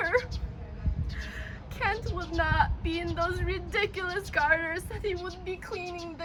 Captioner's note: sobs